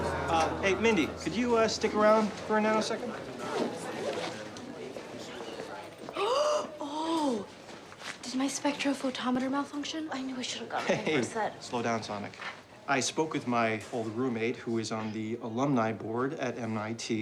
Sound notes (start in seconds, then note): 6.2 gasps